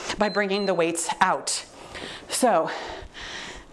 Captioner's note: timer beeps